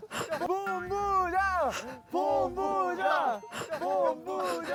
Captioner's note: Chanting for Director Choi